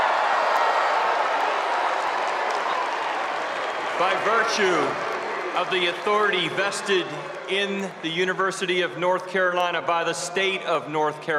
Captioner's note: cheers and applause